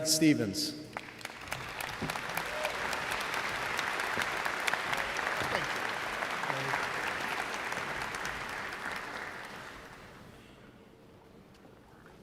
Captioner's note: applause